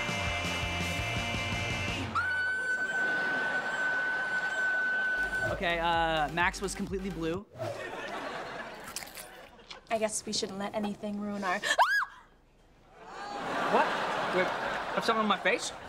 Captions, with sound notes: [screaming] Okay, uh... Max was completely blue. [laughing] I guess we shouldn't let anything ruin our -- [screaming] What? Do I have something on my face?